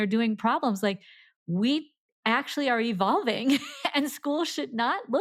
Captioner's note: laughs